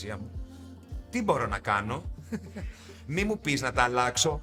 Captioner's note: laughs